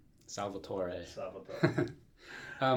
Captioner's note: italian pronunciation